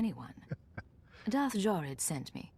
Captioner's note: laughs